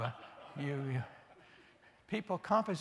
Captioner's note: laughter